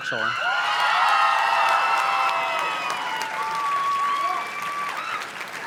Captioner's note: audience cheers and claps